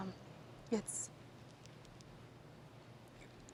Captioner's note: none